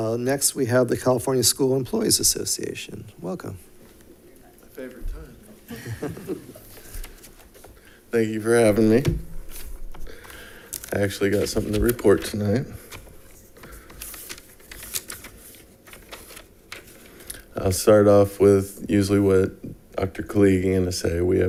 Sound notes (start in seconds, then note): 5.6 laughs; 14.3 papers rustling